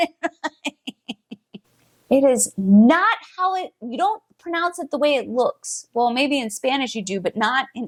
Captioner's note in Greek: Γέλια